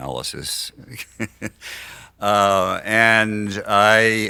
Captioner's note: laughs